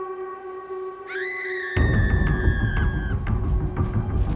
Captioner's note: Ashley screams